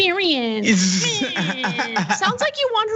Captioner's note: laugh